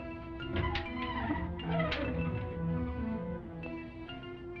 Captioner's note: drawer squeaks